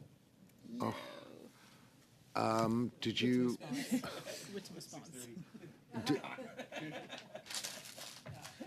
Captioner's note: laughter